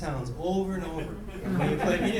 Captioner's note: laughing